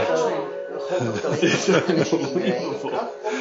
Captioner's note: laughing